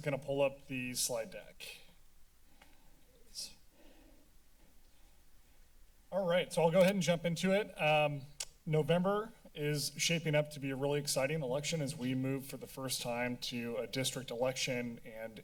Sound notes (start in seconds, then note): 2.7 pause